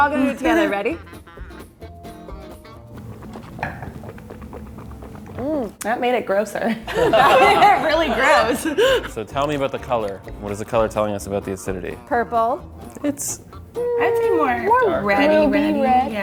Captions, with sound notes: - We're all gonna do it together, ready? (mouth gargling) - That made it grosser. (laughing) Really gross. - So tell me about the color. What is the color telling us about the acidity? - Purple. - Mmm, warmer - I think more reddy, reddy.